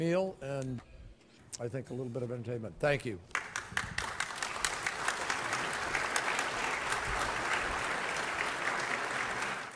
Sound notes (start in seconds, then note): 4.0 applause